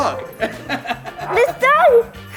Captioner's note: laughs